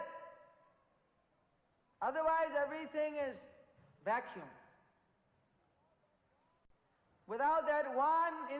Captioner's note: in Bengali